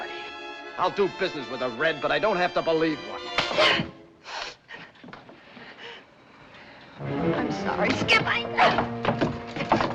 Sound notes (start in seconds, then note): 3.2 gasps